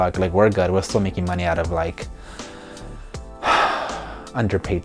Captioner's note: sighs